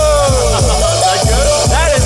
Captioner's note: laughing